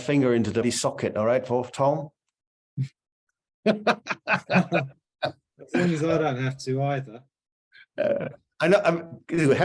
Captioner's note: laughter